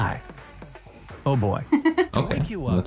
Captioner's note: laughs